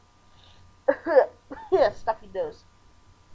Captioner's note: coughing